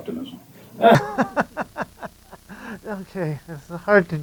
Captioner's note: laughs